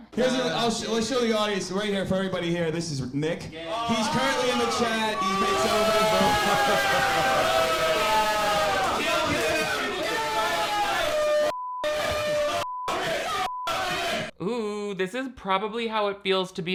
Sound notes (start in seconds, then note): 6.2 audience boos; 9.0 audience yells incoherently